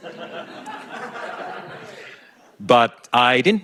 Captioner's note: audience laughing